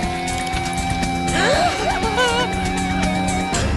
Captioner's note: gasp